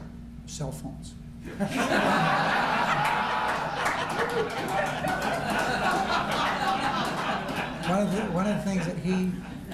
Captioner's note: laughter